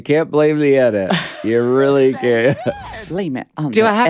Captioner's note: Courtney laughs